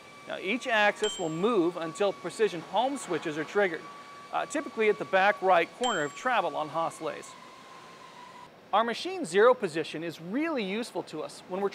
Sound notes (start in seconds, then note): 1.0 ding; 5.8 ding